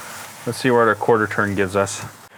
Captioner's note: steak sizzling